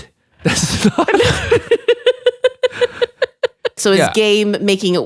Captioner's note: laughing